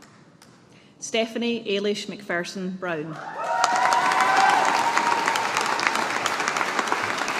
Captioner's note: audience applauding